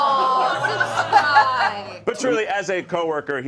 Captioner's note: all exclaiming